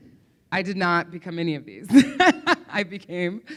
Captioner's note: laughs